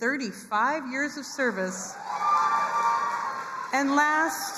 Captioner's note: crowd cheering and applauding